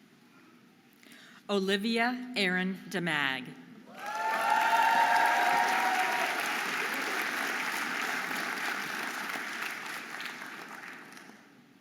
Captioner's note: audience applauding and cheering